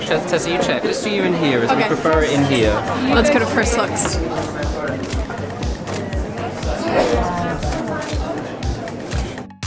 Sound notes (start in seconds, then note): 5.8 camera shuttering